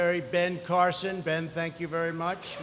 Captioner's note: applause